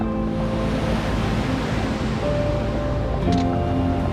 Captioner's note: water rushing